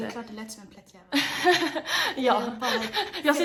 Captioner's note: laughs